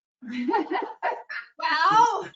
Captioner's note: laughs